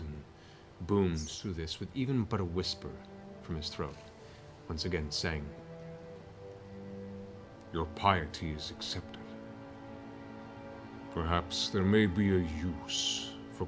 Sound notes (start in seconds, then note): none